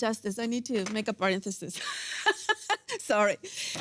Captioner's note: laughs